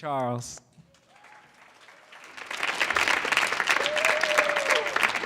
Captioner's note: audience clapping